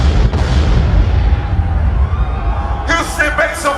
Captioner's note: crowd Cheering